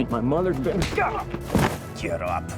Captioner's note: PUNCH,</i> <i> GRUNTS